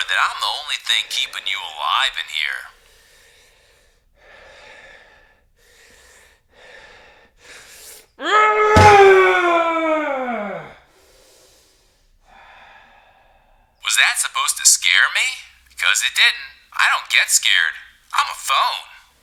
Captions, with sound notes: that I'm the only thing keeping you alive in here. (Manny groans) Was that supposed to scare me? Because it didn't. I don't get scared. I'm a phone.